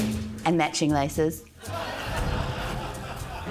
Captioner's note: laughter